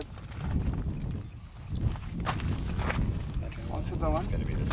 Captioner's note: wind whooshing